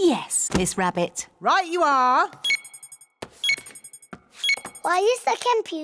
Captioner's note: beeping